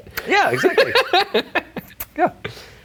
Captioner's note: laughing